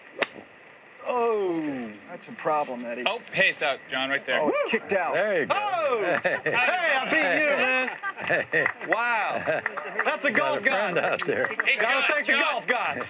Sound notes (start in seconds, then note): 8.6 chuckles